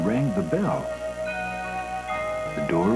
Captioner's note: ringing bell